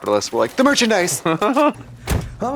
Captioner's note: Kim sputters; door slams